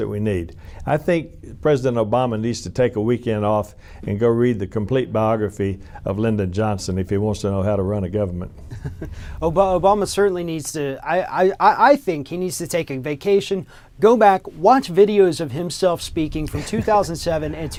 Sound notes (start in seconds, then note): 8.6 laughter